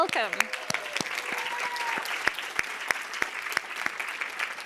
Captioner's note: applause